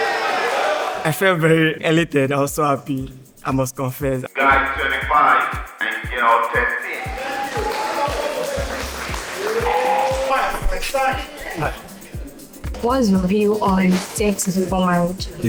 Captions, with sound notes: I felt very elated, also happy. I must confess. Guy 25 and girl 13 [APPLAUSE] Hi. Hi. What's your view on sex before marriage?